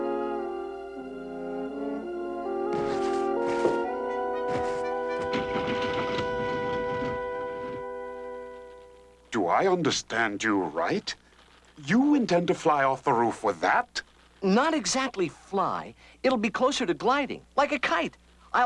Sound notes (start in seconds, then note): 2.6 cloth rustling